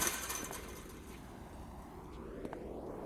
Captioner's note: rattling